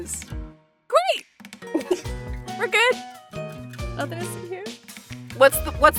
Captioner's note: chuckles